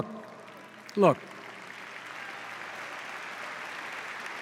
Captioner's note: applause